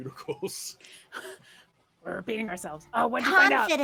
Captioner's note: laughs